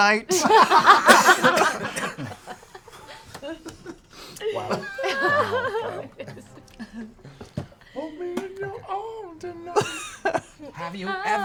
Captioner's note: laughter